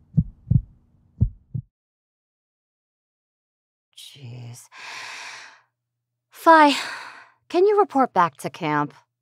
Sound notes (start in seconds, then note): 0.0 heartbeat; 4.8 disappointed sigh